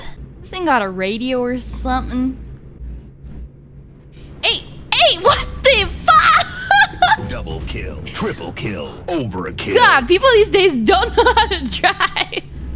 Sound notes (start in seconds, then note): 6.3 laughter